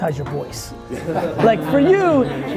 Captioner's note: all laughing